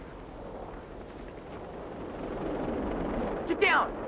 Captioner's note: helicopter buzzing